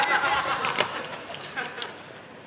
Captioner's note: laughter